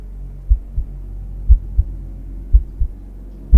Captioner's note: heart beating; eerie music